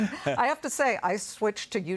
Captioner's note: laughter